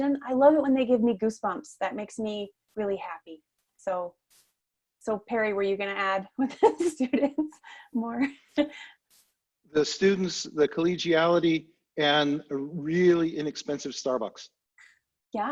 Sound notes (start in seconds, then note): 7.1 laughing